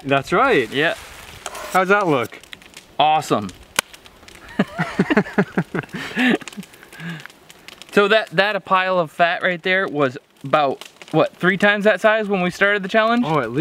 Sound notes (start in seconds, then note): 4.4 men laugh